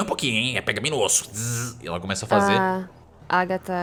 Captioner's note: bzzz